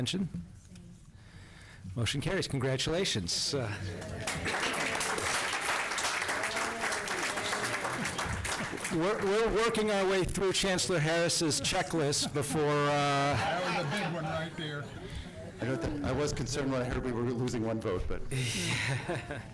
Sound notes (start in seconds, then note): 4.0 applause; 12.1 laughter